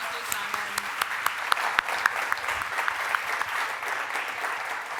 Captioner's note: audience applauds